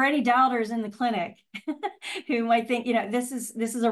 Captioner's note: laughter